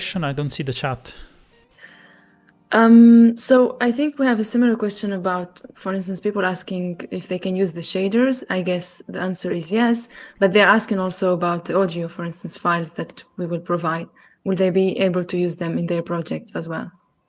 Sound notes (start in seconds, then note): none